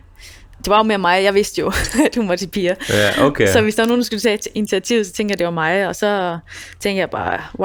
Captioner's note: laughs